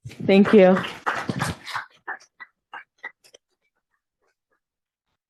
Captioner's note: applause